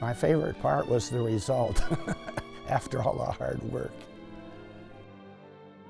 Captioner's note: laugh